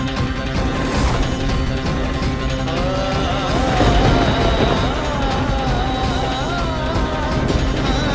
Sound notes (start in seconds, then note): 3.4 thundering